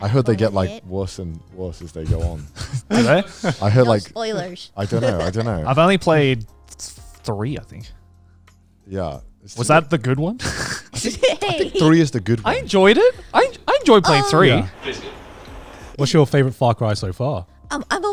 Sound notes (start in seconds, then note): 10.4 laughs